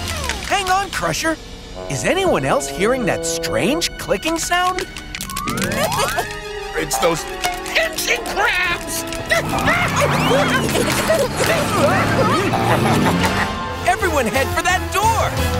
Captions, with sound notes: Hang on, Crusher. Is anyone else hearing that strange clicking sound? [clicking] It's those pinching crabs! [screaming] Everyone head for that door!